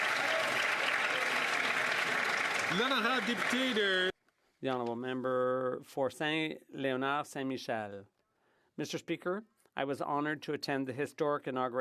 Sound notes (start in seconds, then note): 0.0 some Applause